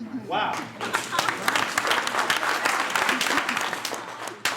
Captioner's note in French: Applaudissements